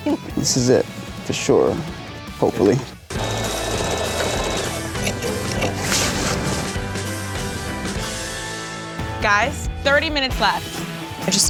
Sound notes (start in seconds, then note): 3.1 sewing machine whirring; 4.2 upbeat music